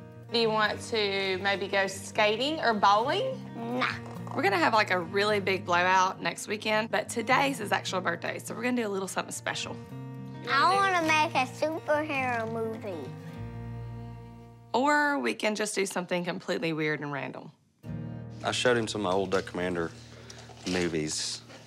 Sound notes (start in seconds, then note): none